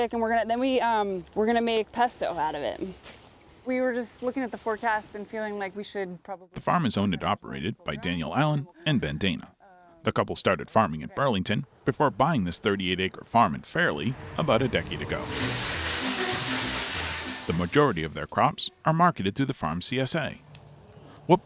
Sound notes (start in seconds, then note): 15.0 water splashing